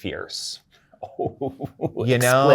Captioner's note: guy laughing